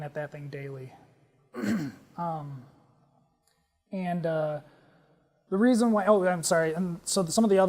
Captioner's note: cough